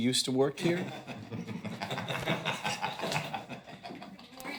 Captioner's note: chuckling